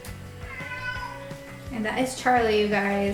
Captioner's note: cat meows